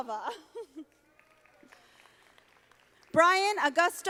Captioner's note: audience applauding